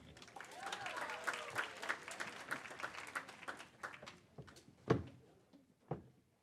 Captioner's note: audience applaud; cheers